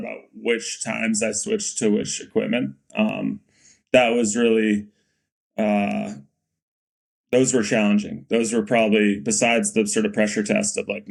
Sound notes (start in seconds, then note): none